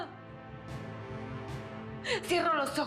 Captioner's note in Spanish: Sollozos